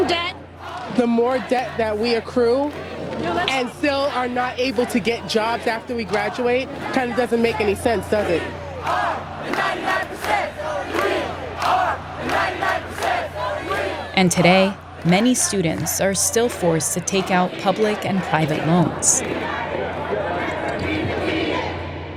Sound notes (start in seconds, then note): 8.4 chanting